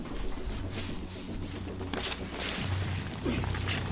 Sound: intense music; rustling

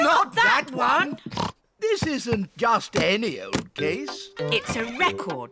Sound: snorts

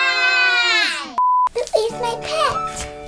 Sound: beep

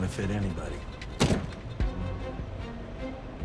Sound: gun clanks

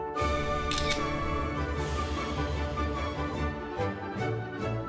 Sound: camera shutters

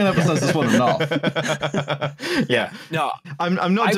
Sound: laughs

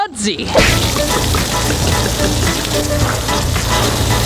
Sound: water splashing

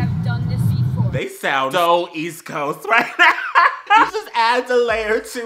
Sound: breaks into laughter

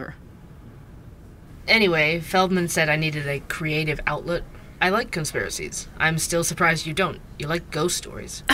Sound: ambience - Coffee Shop

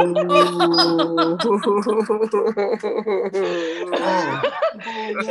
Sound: laughter

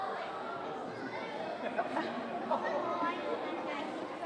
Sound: audience exclaiming

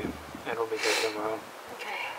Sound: wind

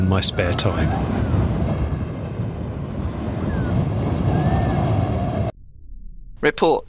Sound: sound of air rushing past

